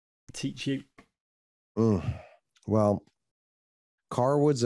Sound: sighs

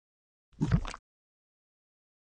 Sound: bubble noise

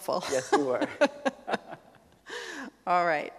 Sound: chuckles

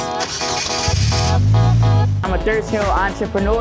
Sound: car engine revving

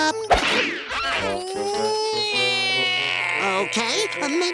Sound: crying

